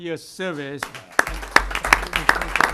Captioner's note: applause